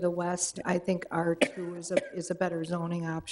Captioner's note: woman coughs